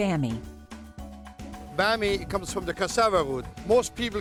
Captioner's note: none